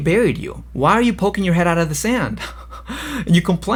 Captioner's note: laughs